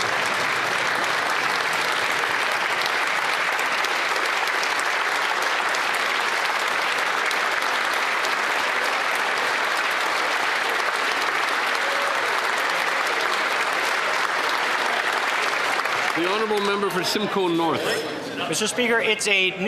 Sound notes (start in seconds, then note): 3.5 some Applause; 12.3 applause